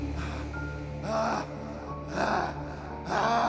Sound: panting

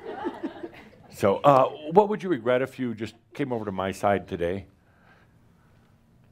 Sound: some giggles

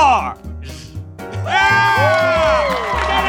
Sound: cheering

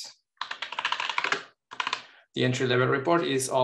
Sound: keyboard clattering

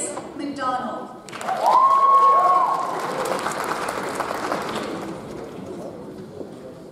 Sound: audience applauds; audience cheers

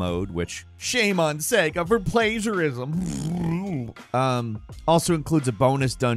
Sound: blows raspberry

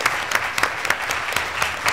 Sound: applause

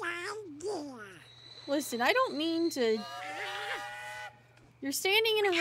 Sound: train Whistle

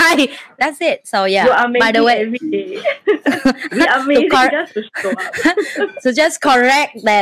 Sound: laugh

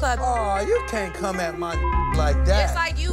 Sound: beep

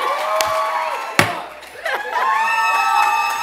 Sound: gavel pound; cheers

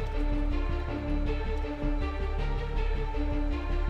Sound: mouthing

